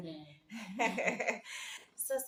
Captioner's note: both laugh